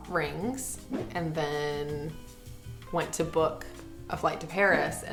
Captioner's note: air whooshing